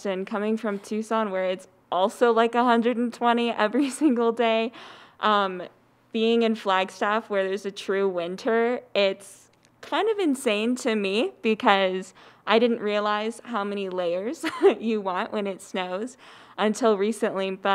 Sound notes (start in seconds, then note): 4.7 laughs; 14.4 laughs